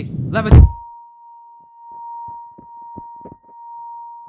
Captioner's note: ear Ringing